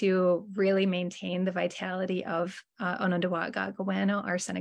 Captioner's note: speaking in Native language